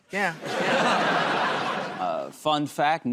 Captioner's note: laughter